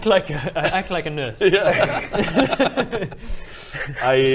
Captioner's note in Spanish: risas